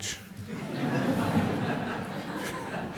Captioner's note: laughter